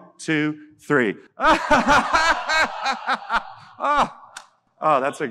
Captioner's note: audience laughing